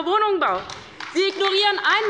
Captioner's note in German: Beifall bei der LINKEN